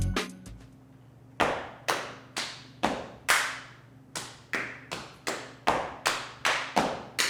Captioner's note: hands smacking; feet thudding